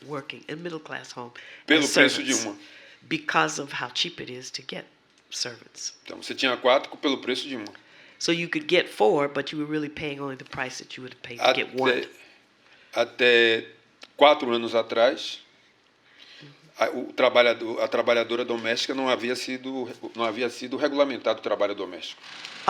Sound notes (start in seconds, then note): 7.1 speaking portuguese; 17.8 speaking portuguese